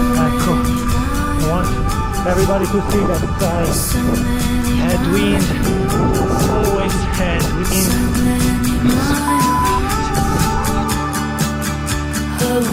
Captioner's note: beep